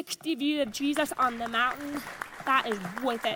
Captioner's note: audience applauds